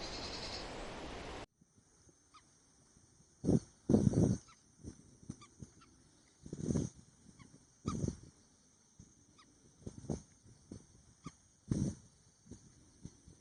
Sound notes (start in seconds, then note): 2.0 wind blowing; 7.2 birds chirping